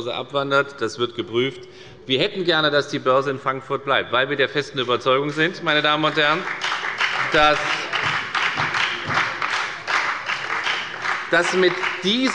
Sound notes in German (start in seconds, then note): 5.2 Beifall bei der FDP und bei Abgeordneten der CDU